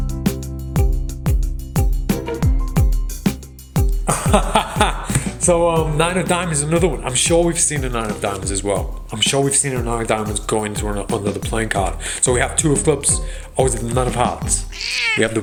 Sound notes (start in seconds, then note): 0.3 upbeat music; 4.0 laughs